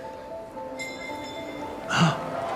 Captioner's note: bell clinking